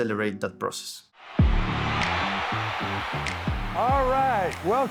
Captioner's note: cheers and applause